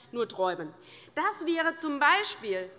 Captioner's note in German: none